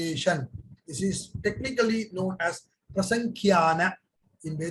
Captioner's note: speaks in Hindi